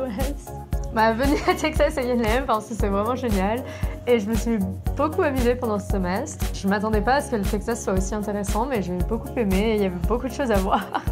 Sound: speaking French

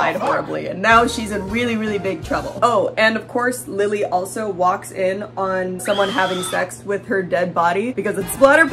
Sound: scream

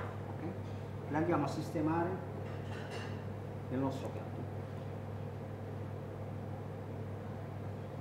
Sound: speaking Italian

